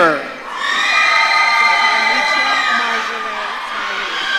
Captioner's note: audience cheering